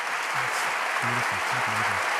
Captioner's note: applause